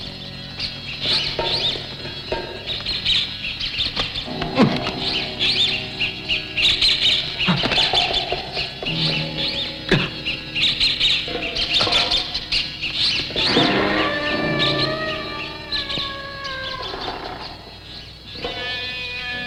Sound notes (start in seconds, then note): 4.4 groaning; 13.8 door creaking